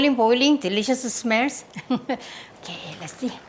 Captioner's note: laughs